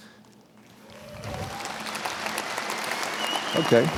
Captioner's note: audience applauds